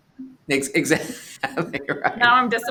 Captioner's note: chuckles